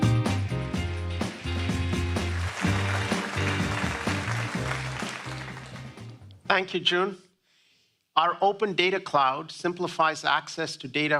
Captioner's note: applause